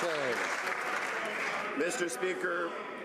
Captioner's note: some Applause